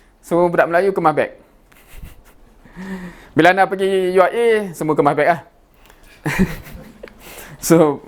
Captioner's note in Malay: ketawa